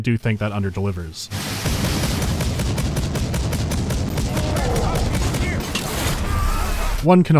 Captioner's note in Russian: сдержанная долбёжка